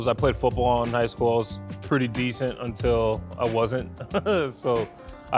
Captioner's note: laughs